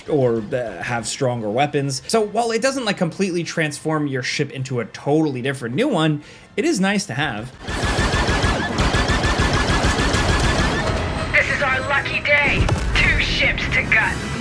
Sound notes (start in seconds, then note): 7.6 lasers blasting